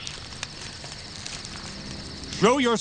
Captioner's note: twigs snap